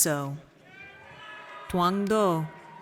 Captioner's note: audience cheers